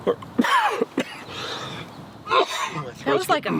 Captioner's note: coughs